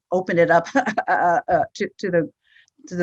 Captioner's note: laughs